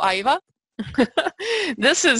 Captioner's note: laughter